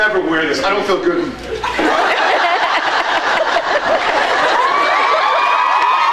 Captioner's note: laughs; laughs, cheers